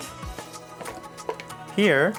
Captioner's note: blender cover rattling